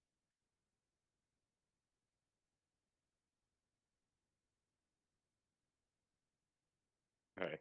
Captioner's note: audio cuts out